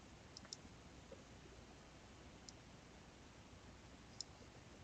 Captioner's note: mouse clicking